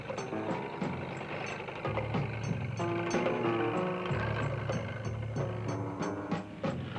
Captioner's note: engine revving